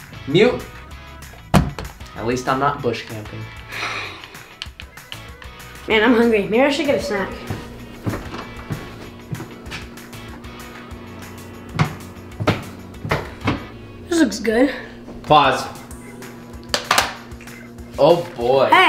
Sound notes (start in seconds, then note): 3.6 sighs